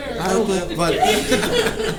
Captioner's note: laughter